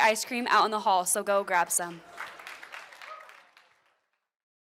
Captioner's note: applause